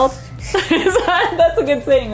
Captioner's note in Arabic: يضحك